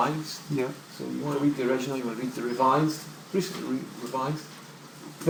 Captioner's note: voiceover